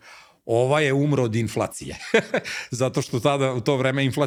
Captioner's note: laughs